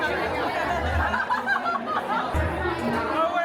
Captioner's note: laughing